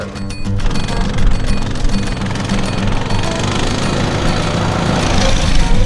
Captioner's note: motorcycle engine revving